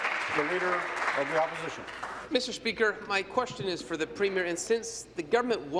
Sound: applause

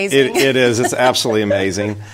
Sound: chuckling

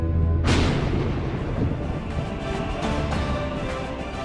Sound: thunder claps; exciting music

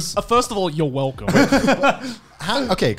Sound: laughing

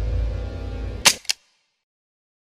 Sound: click

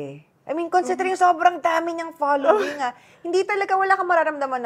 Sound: laughs shyly

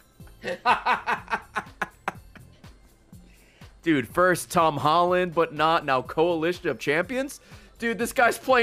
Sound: laughs

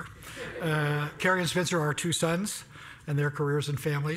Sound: laugh

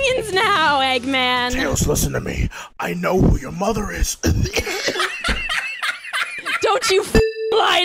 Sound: coughing

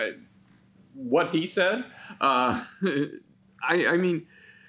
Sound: chuckles

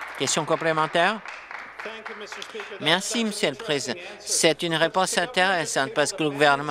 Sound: applause

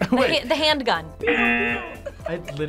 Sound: laughs

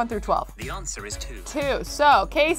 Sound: computer Voice

